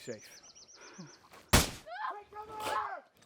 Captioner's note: gun fires